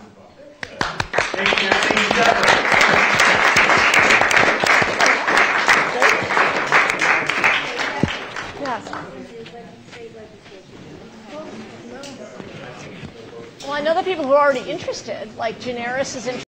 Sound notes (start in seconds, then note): 4.1 applause